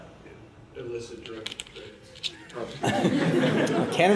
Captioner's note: laughter